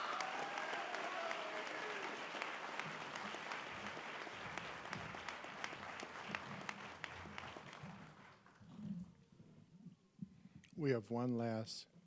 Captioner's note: applause